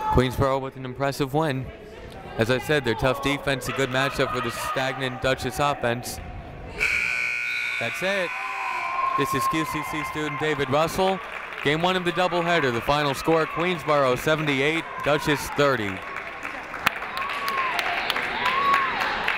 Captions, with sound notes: Queensborough with an impressive win. As I said their tough defense a good matchup for the stagnant Dutchess offense. (buzzer rings) That's it! This is QCC student David Russell. Game one of the double header, the final score Queensborough 78, Dutchess 30.